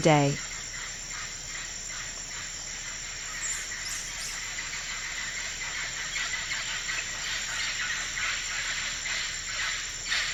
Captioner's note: forest sounds